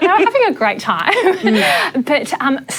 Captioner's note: laughs